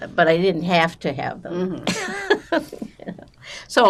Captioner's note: laughing